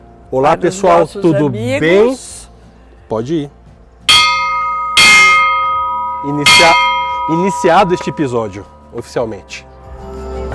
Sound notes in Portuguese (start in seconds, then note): 4.1 sino badalando